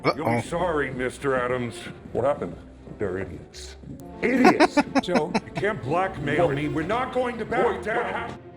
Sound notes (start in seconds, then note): 4.3 laughing